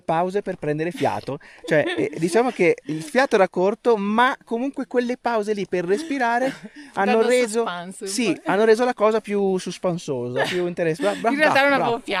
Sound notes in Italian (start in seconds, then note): 1.6 risate; 10.8 risate